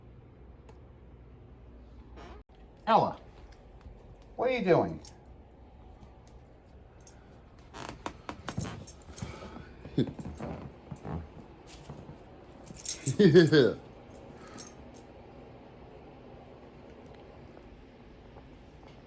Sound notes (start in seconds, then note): 5.1 Ella giggles; 5.1 floor creaking